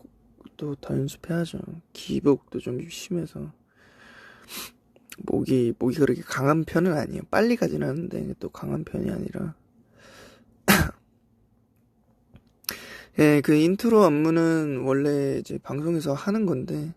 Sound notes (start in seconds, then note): 10.6 sneezing